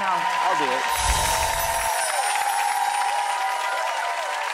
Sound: crowd cheering

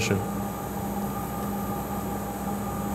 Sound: machine whirring

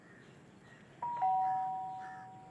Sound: doorbell ringing

